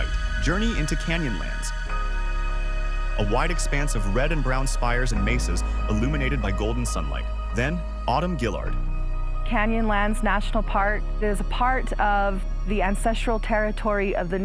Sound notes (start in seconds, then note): 5.4 wind sweeps wide